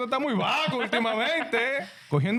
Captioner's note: speaking In Foreign Language